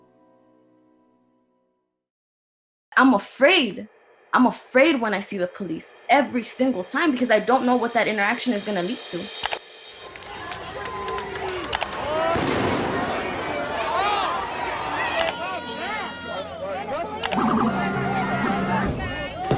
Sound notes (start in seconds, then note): 10.4 crowd chatter; 12.3 gunshots; 17.3 sirens